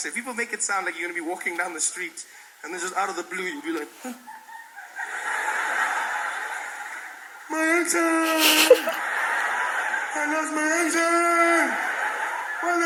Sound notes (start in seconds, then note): 5.4 laughter